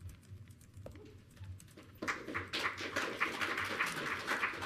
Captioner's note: audience clapping